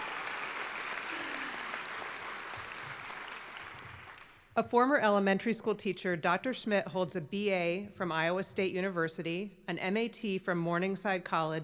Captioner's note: applause